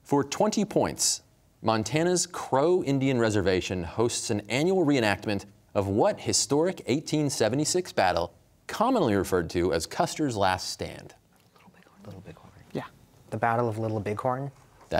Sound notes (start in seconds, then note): 11.6 whispering